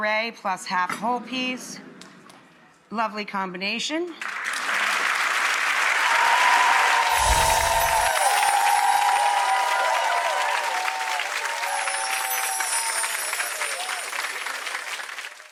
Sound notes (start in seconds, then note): 4.8 audience cheering and clapping